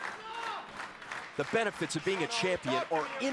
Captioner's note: crowd chatter